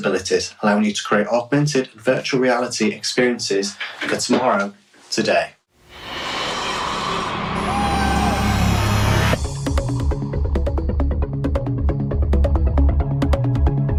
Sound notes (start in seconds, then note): 11.2 beeping